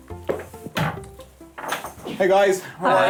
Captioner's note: latch clicks